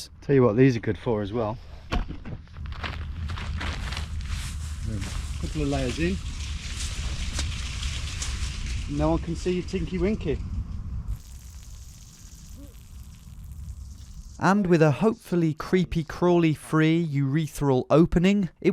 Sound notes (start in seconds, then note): 2.3 rocks crunching; 4.3 leaves rustling